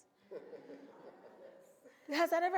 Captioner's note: audience laughs